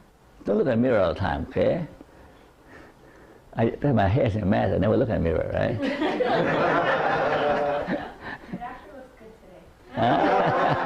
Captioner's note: laughter